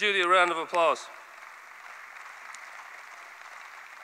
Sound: applause

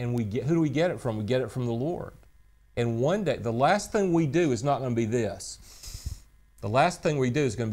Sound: inhales sharply

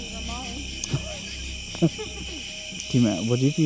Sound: laughs

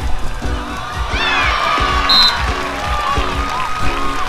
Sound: cheering

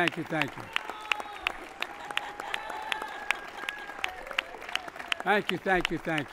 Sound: applause

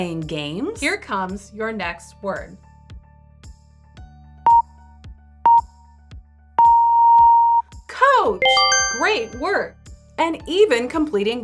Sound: 3 second count down timer and beeps

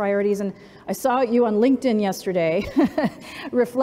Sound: laughs

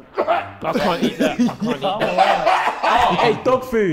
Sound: KSI coughing

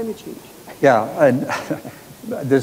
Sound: laughs

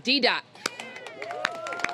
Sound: applause

